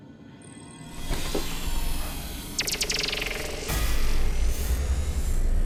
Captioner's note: pulsing